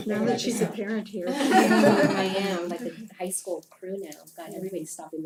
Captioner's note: laugh